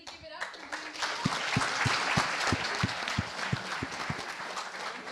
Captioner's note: applause